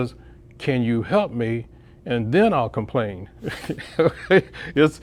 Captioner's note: laughs